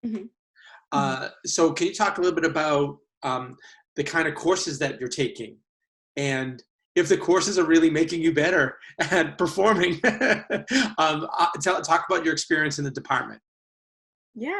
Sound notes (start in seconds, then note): 9.6 laughs